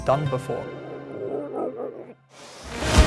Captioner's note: doing strange sound effect